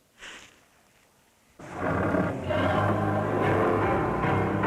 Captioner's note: growling